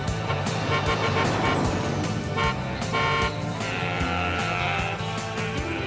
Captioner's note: horn honking